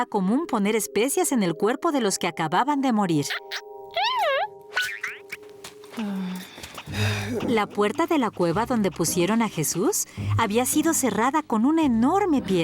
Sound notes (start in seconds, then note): 3.9 caterpillar noises; 5.8 sighing